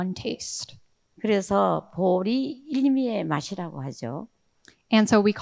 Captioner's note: speaking in foreign language